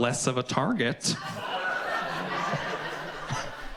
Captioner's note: audience laughs